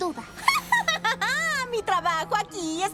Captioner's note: nasty laugh